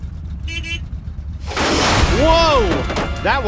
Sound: car horn honking; hissing

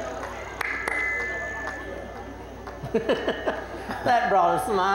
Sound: claps hands; laughter

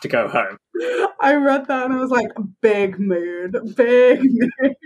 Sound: laughing

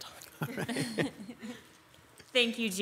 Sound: group laughing

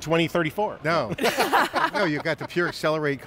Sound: all laughing

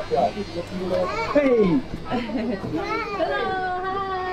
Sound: children giving high fives

